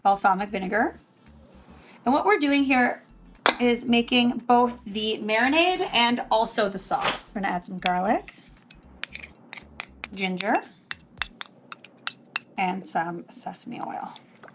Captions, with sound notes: Balsamic vinegar. And what we're doing here is making both the marinade and also the sauce. We're gonna add some garlic. (spoon scraping dish) Ginger. (spoon scraping dish) And some sesame oil.